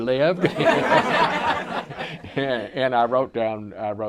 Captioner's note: audience laughter